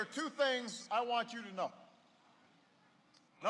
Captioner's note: none